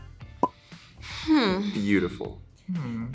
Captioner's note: sighs thoughtfully